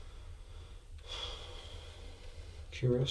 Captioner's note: sighs